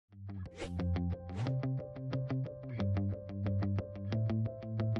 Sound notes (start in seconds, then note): 0.6 logo whooshing; 1.9 soft music